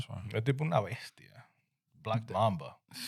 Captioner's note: speaking In Foreign Language